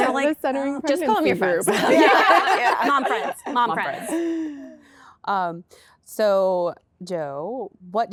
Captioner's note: laughter